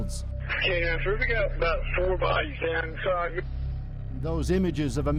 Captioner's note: voice over radio